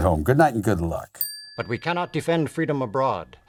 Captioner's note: bell chiming